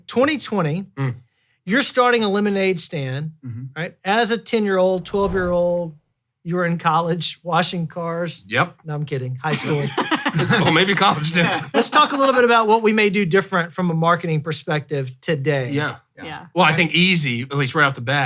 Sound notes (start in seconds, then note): 9.5 laughing